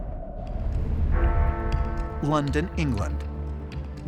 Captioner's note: bell tolling